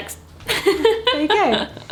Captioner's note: laughs